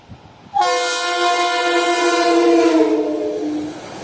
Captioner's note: hoooooooooooooooorn